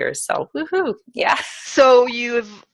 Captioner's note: laugh